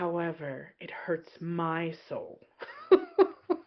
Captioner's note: laughs